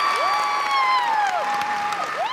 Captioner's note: applause